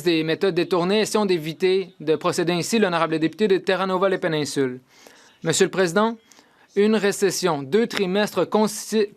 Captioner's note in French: voix de l'interprète